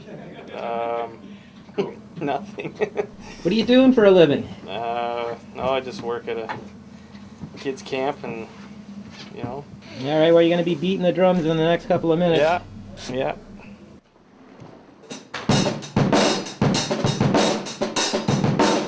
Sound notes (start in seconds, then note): 3.1 laughs; 15.3 upbeat drumming